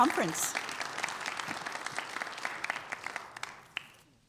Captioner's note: audience applauding